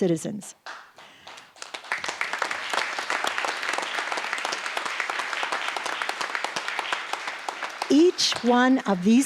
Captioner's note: applause